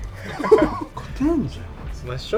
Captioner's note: laughs